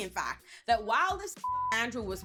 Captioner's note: beep